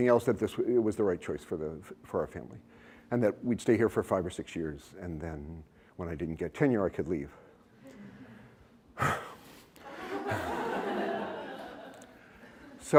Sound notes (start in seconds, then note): 7.3 laughter; 8.9 heavy sigh; 9.8 laughter